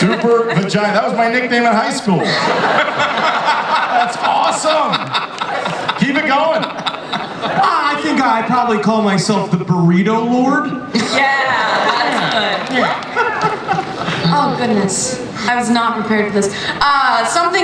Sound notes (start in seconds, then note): 2.2 audience laughs